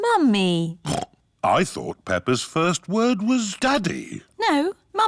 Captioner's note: snorts